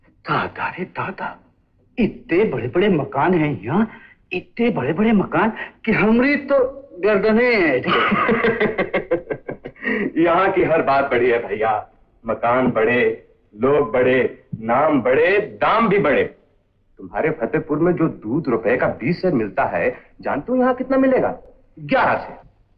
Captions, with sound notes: My lord! There are such huge houses here. Such huge houses that my neck got stiff. (Laughs) Everything is big here bro. Houses, people, names and prices are big, too. Back in Fatehpur you get 20 liters of milk for one rupee. You know, how much will you get here? 11 liters!